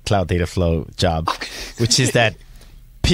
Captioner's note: chuckling